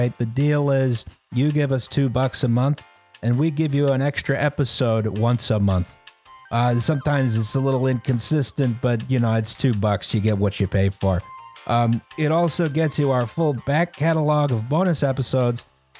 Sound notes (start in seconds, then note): none